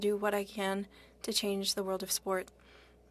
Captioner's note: speaking French